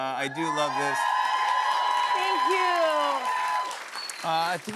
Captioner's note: cheers and applause